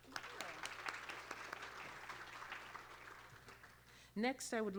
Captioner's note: applause